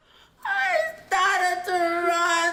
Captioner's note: shouting